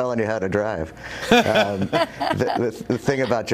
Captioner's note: laughter